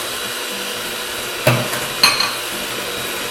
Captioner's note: mixer whirs